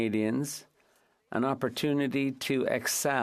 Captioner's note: speaking French